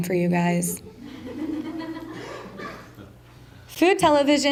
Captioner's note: laughter